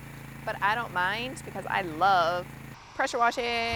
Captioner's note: singsong voice